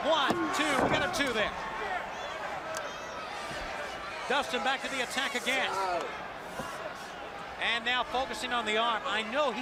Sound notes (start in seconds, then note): 1.2 crowd chatter; 6.1 crowd chatter